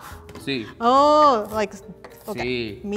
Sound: speaking in foreign language

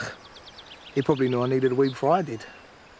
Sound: scoffs

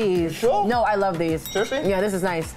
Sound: bell dings

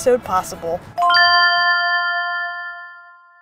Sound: electronic chiming

